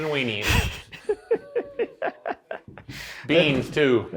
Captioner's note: laughing